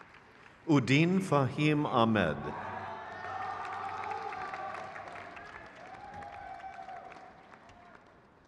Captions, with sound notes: Bruin C. Armwald. (crowd cheers)